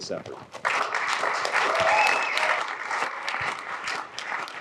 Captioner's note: applause